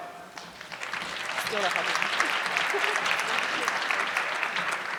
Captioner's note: audience clapping